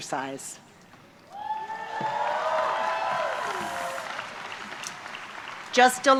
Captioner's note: applause